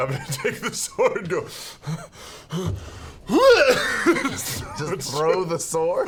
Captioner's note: laughing; panting, grunt